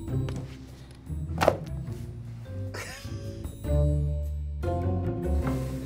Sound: book swishes through the air

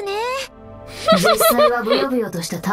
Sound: chuckles

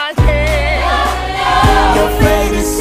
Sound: crowd

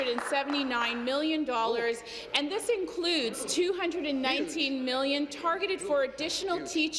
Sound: applause

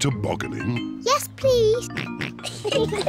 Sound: snorts; oinks; both giggle

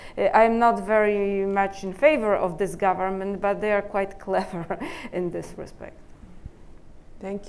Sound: chuckle

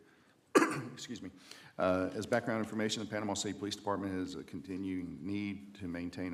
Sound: cough

